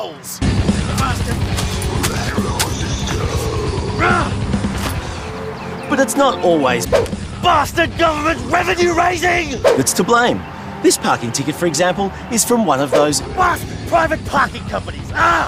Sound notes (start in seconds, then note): 0.5 heavy metal singing; 1.8 groans